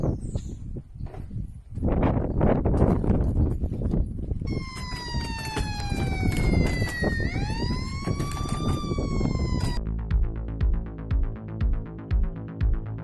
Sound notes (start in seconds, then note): 4.4 sirens beeping; 8.7 upbeat music